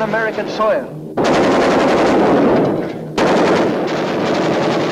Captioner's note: guns firing